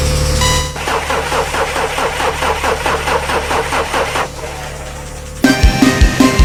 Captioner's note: Sound of the Beetle struggling to start the engine